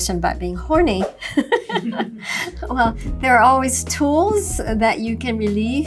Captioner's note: laughs